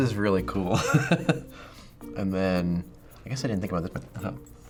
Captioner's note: chuckles